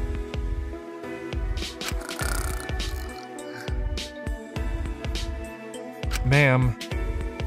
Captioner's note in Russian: хррр; зевает